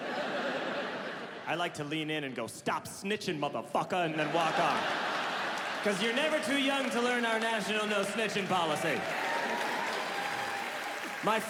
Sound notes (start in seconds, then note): 4.1 audience laughs; 9.4 audience laughs and applauds